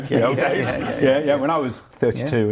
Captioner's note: laughs